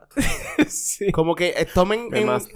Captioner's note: laughs